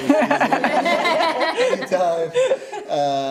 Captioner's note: laughing